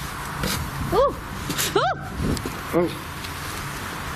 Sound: screams

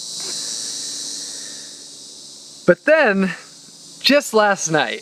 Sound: takes deep breath

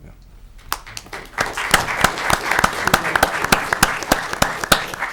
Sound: audience clapping

